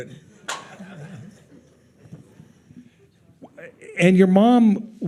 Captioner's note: attendees laughing